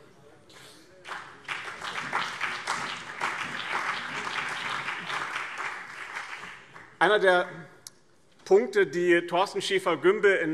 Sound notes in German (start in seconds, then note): 1.0 Beifall BÜNDNIS 90/DIE GRÜNEN, CDU, SPD, Freie Demokraten und DIE LINKE